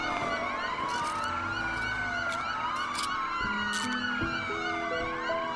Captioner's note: soft tense music; handcuffs clinking